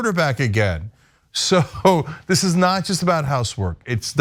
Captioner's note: laugh